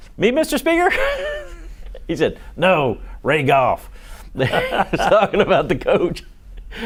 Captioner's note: laughter